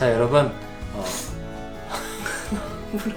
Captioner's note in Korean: 훌쩍